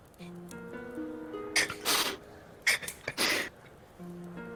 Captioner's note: continues to chuckle quietly